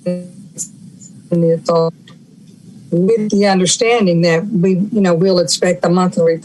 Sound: audio cutting out

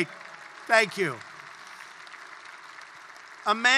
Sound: applause

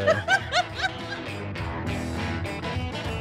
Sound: laughs

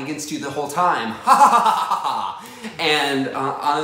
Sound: evil laugh

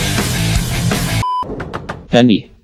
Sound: knock knock knock

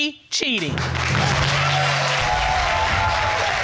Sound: audience clapping

